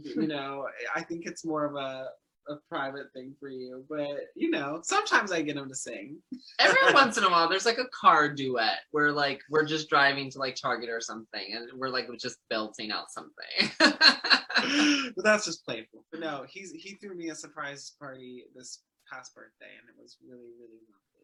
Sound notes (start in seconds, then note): 13.7 laughing